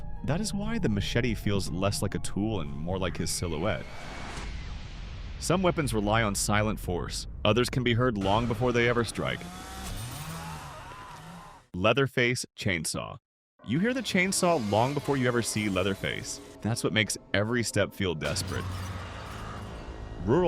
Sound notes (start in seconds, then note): 12.3 chainsaw